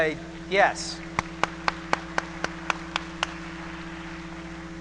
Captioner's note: applause